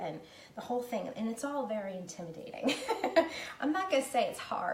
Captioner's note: laughing